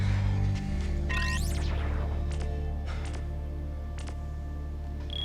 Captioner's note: device peeps